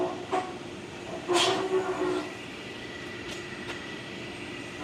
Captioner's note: machinery humming continues